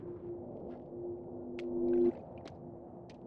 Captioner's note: footsteps in puddle